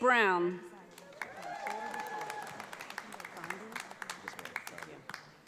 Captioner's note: audience applauds